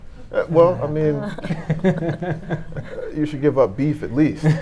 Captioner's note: laughing